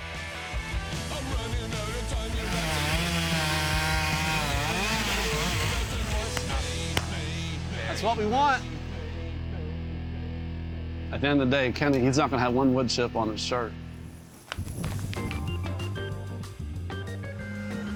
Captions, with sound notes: (upbeat music) (chainsaw humming) (upbeat music) That's what we want. At the end of the day, Kenny, he's not gonna have one wood chip on his shirt. (soft music)